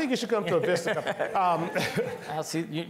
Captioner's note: laughing